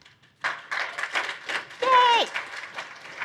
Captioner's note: applause